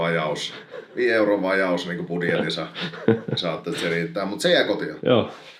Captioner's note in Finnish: naurua